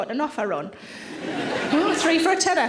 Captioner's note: audience laughing